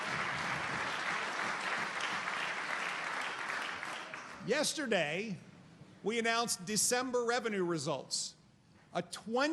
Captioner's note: applause